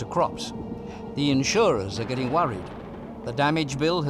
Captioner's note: thunderclap